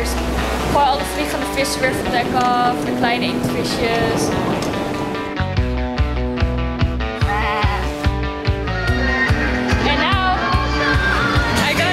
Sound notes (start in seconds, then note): 7.0 makes animal sound